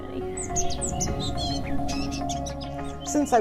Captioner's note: birds chirping